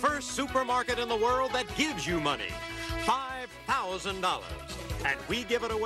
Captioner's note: none